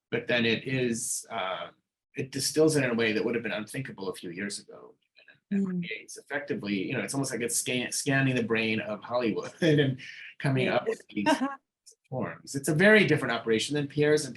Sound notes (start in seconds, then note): 8.1 laughing; 8.7 chuckling